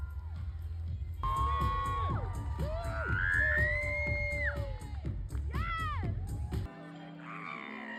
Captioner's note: more screaming, upbeat music